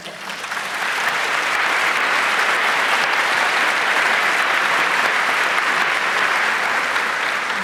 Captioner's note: applause